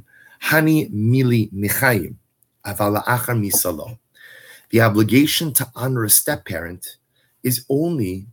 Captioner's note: Hebrew